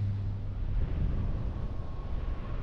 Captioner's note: wind noise